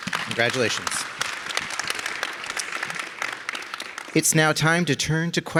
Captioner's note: audience applauding